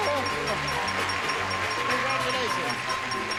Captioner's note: applause